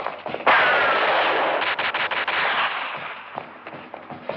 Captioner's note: bullets whistling; gunshots